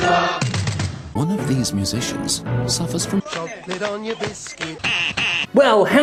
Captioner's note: quack quack